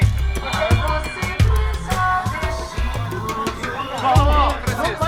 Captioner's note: indistinct chatter